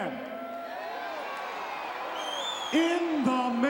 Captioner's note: crowd cheering